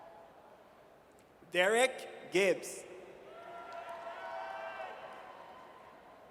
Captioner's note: audience cheers